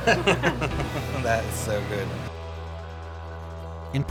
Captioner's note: laughs